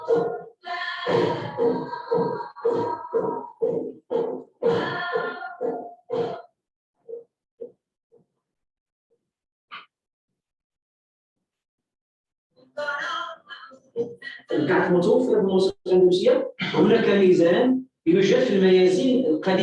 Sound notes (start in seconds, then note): 14.9 non-english speech